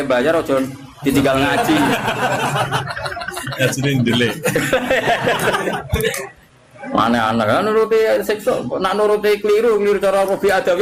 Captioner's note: laughs